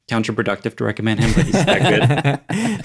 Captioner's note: laugh